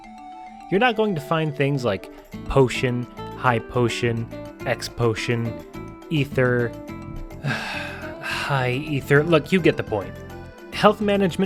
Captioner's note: sigh